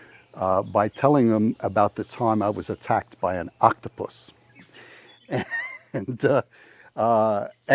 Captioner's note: laughs